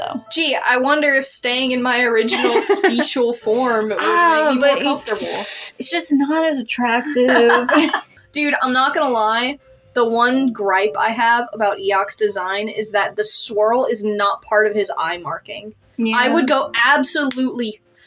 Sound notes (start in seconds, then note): 2.2 laugh; 5.1 sharp Inhale; 7.1 laugh